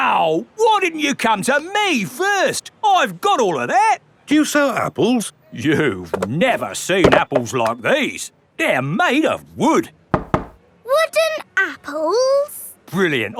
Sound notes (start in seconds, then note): 10.1 knocks